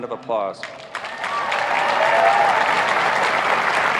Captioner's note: applauding